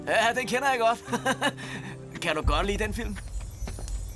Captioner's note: chuckling